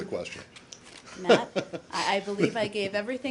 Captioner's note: laughter